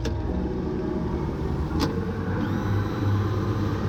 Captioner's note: engines revving